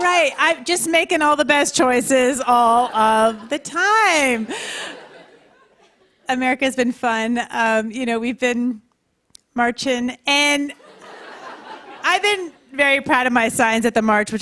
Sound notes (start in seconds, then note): 2.7 laughter; 10.6 light laughter